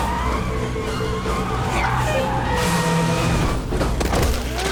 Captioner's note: tires screeching, squealing; truck horn blares